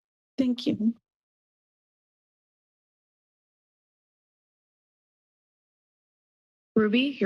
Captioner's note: silence